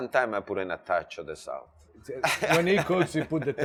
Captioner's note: laughs